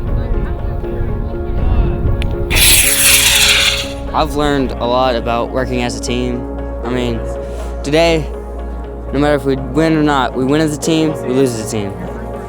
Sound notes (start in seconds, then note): 2.5 rockets launching